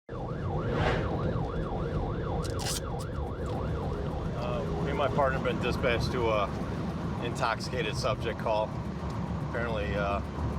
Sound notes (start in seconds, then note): 1.6 sirens